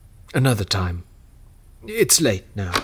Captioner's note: door opens